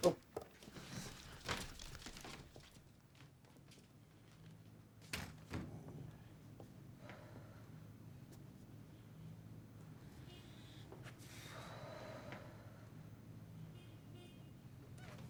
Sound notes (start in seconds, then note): none